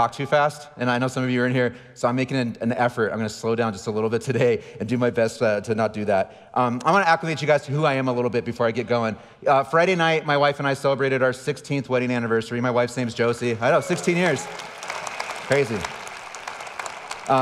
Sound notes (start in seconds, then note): 13.2 audience applauding